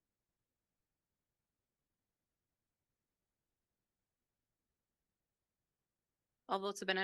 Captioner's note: silence